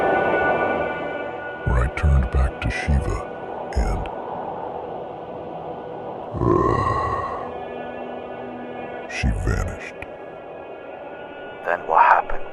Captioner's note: growl